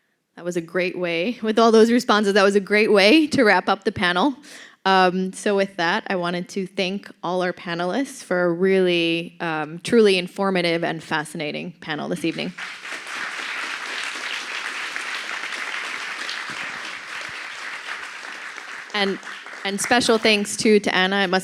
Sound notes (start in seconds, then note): 12.3 applause